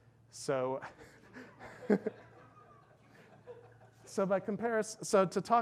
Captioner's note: laughs; audience laughs